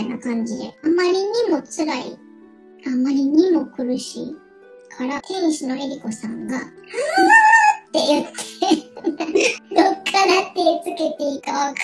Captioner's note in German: lacht